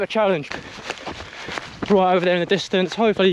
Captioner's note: gravel crunches